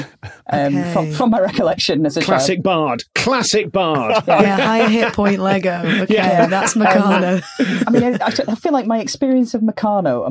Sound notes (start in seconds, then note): 0.4 cracks up; 6.9 laugh